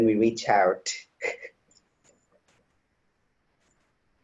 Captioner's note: chuckles